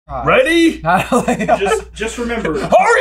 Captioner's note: laughs